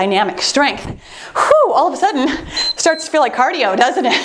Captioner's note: timer beeps